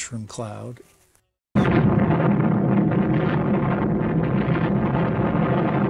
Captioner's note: atomic bomb booming